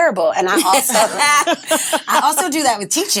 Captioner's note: all laughing